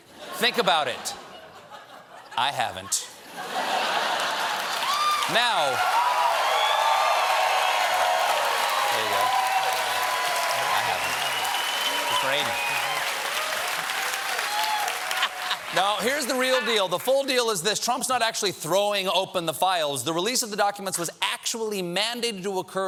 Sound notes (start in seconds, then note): 4.0 cheers and applause; 4.3 laughter